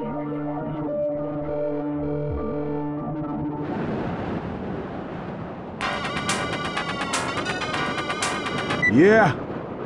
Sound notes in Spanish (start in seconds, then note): 5.9 tono de llamada